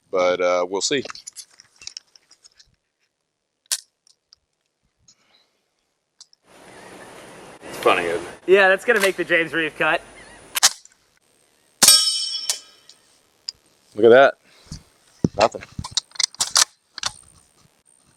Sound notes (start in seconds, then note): 11.8 gunshot